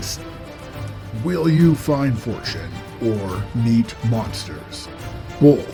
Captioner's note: normal accent